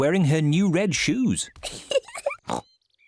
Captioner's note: giggles and oinks